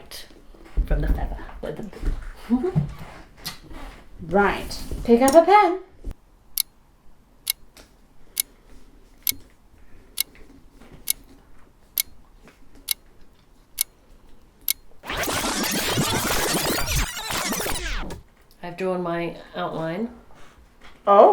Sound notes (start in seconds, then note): 6.4 clock ticks